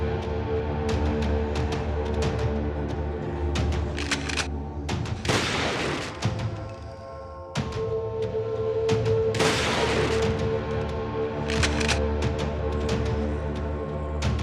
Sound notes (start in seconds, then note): 0.2 chilling music; 3.9 rifle clicks; 5.2 gun fires; 9.4 gun fires; 11.4 rifle clicks